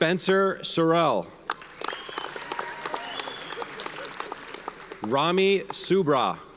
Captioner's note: audience cheers and applauds